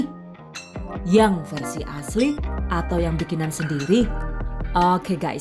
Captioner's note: in Bahasa Indonesia